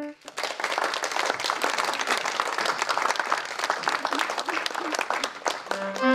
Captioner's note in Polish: oklaski